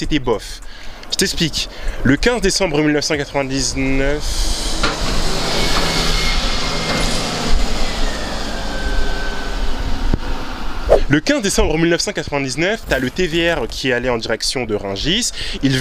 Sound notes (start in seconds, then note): 4.3 A TVM bus passing